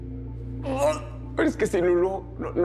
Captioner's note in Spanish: Gruñe